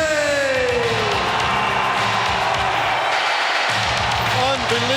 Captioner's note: audience cheering